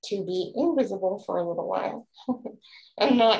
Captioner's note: laughs